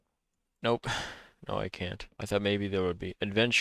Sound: sighs

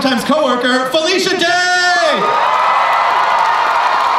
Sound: crowd cheers and applauds

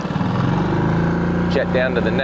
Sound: boat engine revving

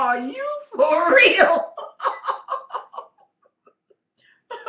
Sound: haHaHa

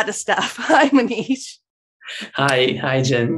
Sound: laughing

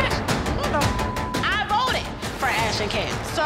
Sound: beep

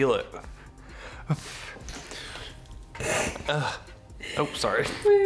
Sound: laughing

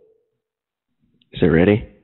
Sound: phone rings

